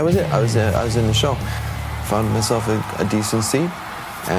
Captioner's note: crowd cheering